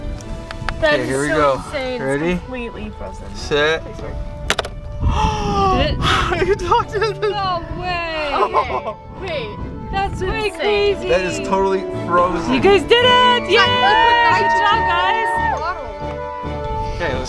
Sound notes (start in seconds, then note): 4.7 metal clicks